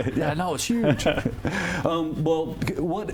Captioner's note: laughs